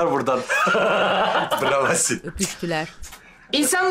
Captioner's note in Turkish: Gülme sesi